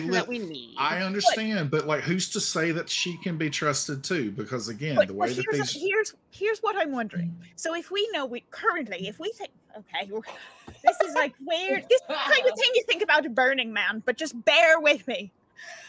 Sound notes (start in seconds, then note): 10.1 laughs